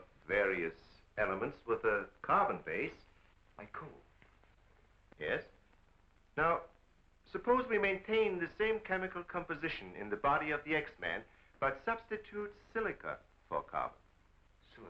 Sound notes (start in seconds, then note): none